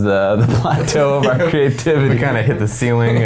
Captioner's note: men laughing